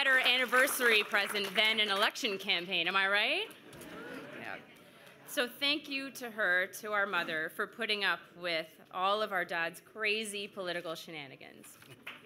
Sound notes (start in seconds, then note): 0.7 cheers and Applause